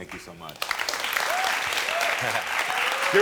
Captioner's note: audience cheering